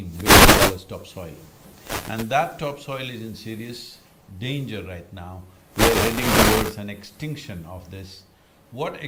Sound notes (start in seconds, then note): 5.7 audio disturbance